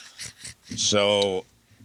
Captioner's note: laughing